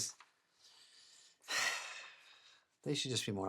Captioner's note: sighing